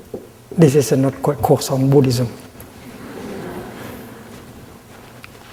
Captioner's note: audience giggling